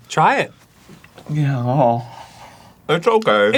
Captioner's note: mouth audibly hesitates